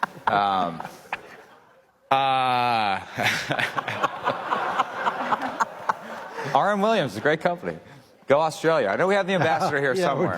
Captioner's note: laughter